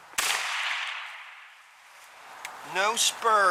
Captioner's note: gunshot